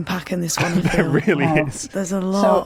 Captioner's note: chuckles